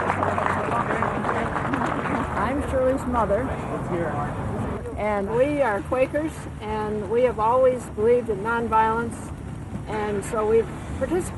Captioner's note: applause